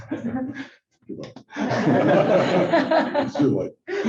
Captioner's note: laughter